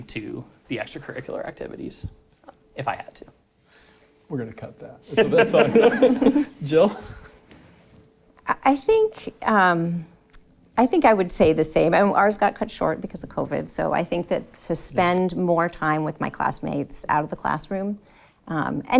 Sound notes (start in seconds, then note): 5.2 audience laughing